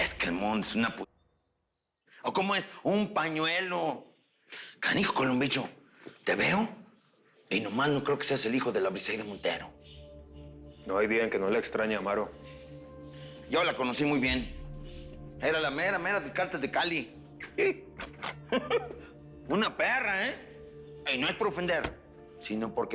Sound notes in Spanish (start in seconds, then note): 18.5 Ríe